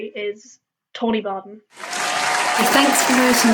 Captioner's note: applause